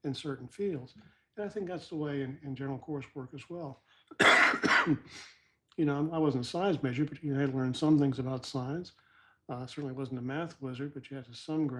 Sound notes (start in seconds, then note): 4.1 cough